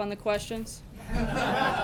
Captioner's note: laughter